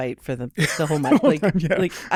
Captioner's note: laughing